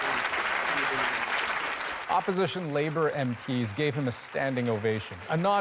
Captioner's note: applause